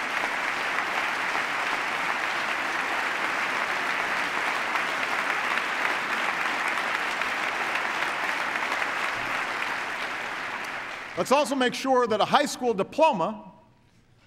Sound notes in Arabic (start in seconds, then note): 2.6 تصفيق